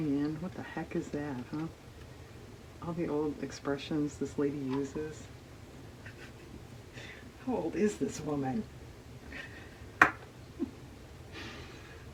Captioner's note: laughs